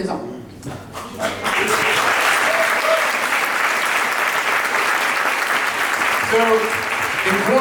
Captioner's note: applause